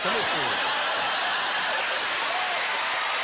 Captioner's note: laughter and applause